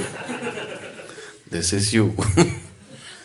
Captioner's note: laughs